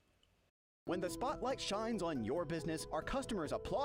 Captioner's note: voiceover